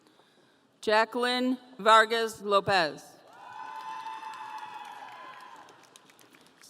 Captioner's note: audience cheering